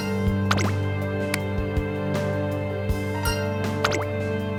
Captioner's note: smack